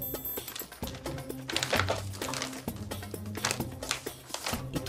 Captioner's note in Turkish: Müzik - Hareketli; Zarf sesi